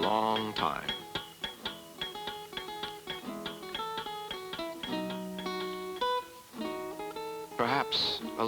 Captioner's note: hammers banging; flamenco music playing